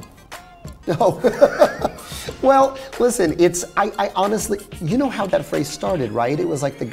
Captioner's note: laughs